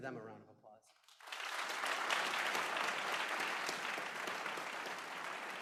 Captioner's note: applause